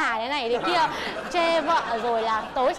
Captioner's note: laughing